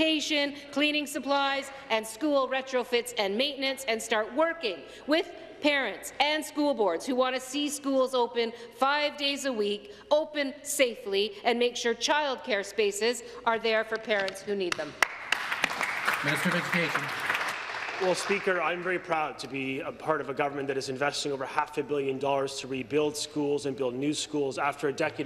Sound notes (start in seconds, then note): 19.3 applause